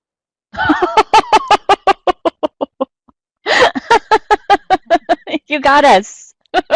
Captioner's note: laugh